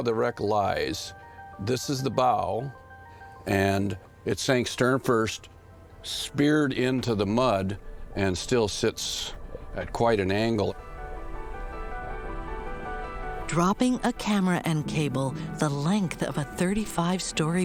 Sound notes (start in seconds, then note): 9.1 bubbling